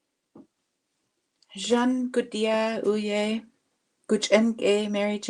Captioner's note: speaking Indigenous language